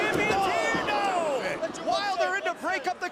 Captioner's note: crowd cheering